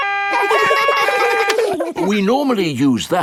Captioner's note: siren stops; siren wailing; kids laugh